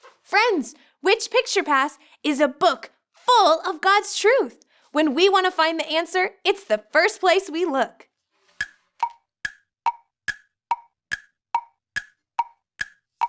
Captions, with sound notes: Friends, which picture pass is a book full of God's truth? When we wanna find the answer, it's the first place we look. (clock ticks)